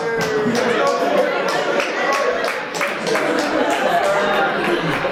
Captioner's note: audience applauds